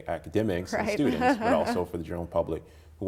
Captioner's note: laughing